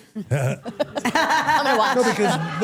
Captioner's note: everyone laughs